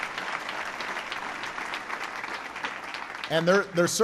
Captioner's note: applause